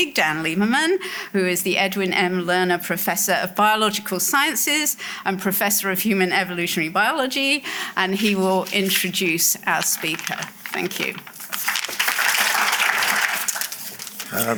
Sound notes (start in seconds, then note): 11.6 applause